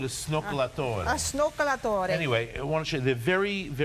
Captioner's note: speaking Italian